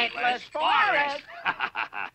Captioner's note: laughs